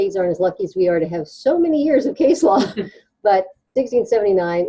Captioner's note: chuckles